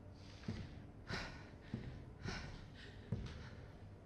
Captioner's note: sighs